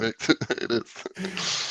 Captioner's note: laughter